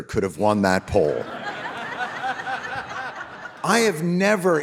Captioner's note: audience laughing